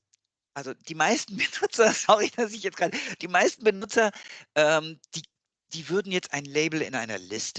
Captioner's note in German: lachen